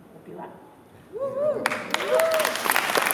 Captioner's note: applause; cheering